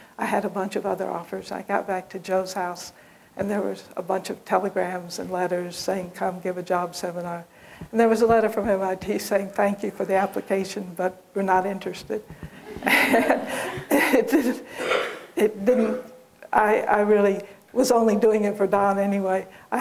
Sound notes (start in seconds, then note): 12.6 laughter